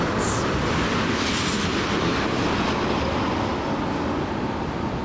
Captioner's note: train rumbling